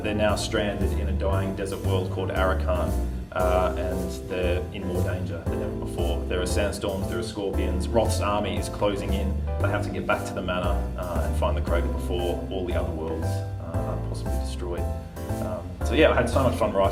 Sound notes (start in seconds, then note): none